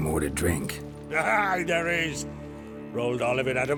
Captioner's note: laughs